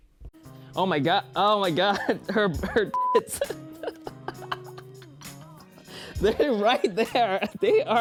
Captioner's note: laughing